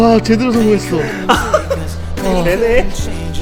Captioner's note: laughing out loud